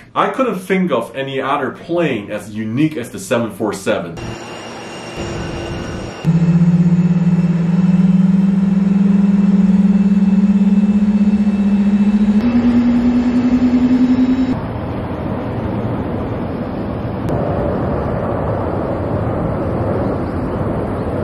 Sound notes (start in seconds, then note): 4.0 engine roaring